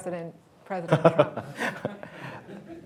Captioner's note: laughter